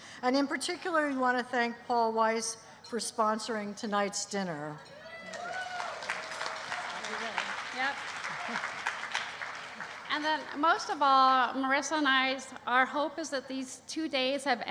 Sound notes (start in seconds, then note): 5.2 applause